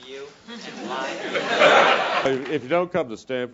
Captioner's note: laugh